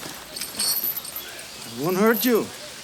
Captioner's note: chain clinks